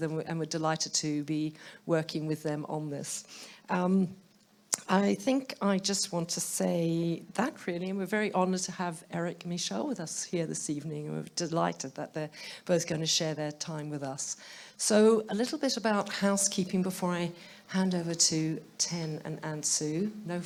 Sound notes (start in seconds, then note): none